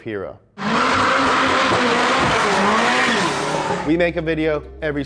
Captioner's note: F40 revving